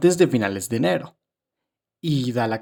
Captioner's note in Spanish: Silencio